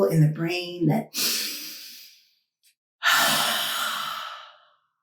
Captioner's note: deep breath